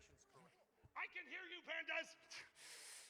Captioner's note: shouting off mic